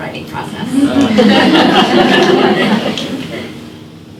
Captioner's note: laughter